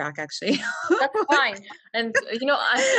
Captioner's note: laughing